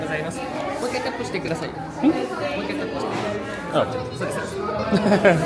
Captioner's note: crowd murmuring